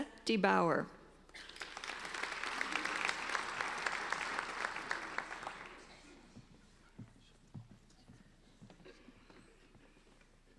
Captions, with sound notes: Tressa DeBoer. (applauding)